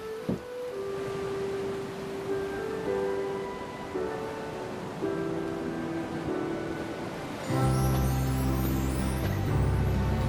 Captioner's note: ocean waves rolling in